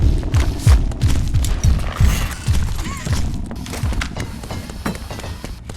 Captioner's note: gunshots